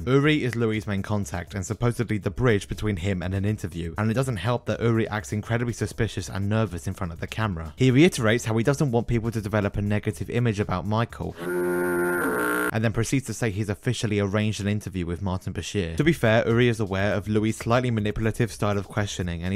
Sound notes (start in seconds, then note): 11.4 foghorn